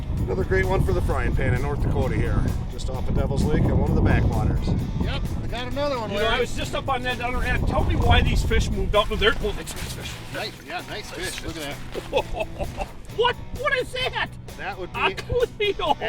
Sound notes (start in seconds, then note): 10.8 voiceover